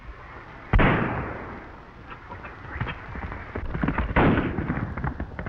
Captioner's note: gunshot banging